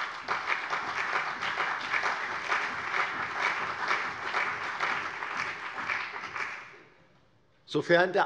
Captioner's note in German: Beifall CDU und vereinzelt BÜNDNIS 90/DIE GRÜNEN